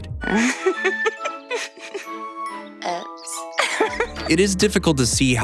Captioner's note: laughter